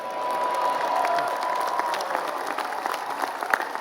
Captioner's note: applause